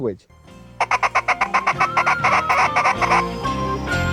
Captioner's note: pheasant call